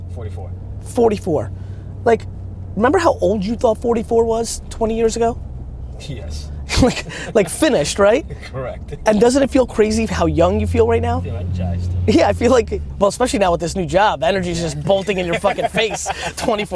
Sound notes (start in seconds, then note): 6.6 laughs